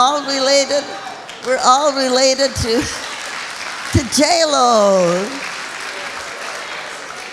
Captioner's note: applauding